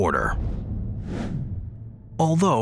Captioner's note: screen wipe whooshes